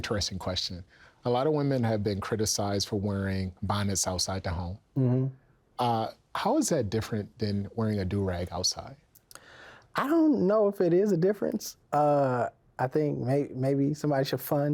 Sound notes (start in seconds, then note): 4.9 mmhmms